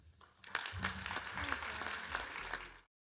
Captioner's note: applause